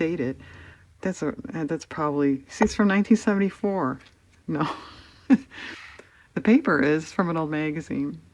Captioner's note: laughs